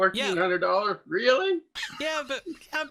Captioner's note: laughs